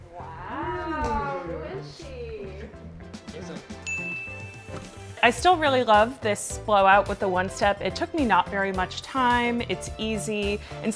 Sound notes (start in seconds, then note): 3.8 bell chimes